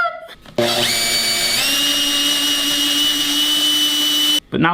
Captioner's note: drilling noise